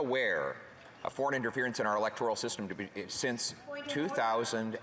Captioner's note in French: voix de l'interprète